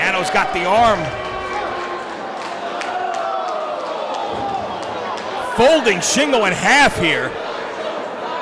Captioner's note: applause